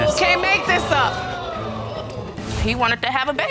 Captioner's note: audience exclaim